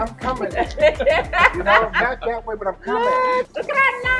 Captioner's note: laughs